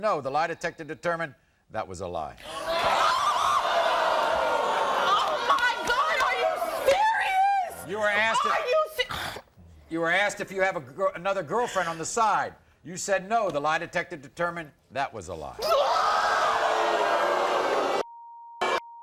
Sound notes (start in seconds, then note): 2.2 audience gasping; 2.2 yelling; 15.3 audience gasping